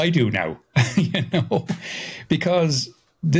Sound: laughing

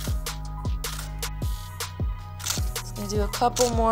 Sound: camera clicking

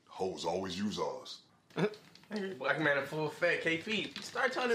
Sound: laughs

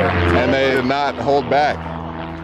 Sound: plane engine

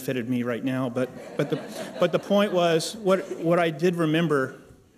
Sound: laughter

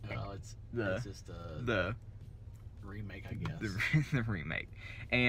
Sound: laughter

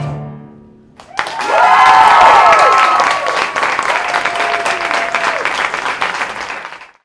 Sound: applause

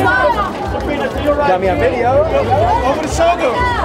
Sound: crowd calls out

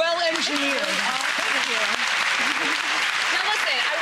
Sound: crowd claps

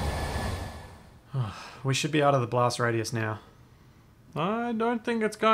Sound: sigh

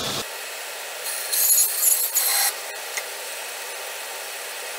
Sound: band saw whirring

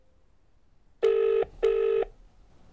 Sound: phone ringing

